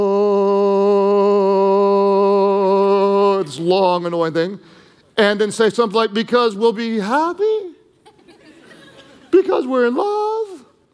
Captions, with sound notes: It's long, and one thing. And then say somethin' like, because we'll be happy? (congregation laughing) Because we're in love?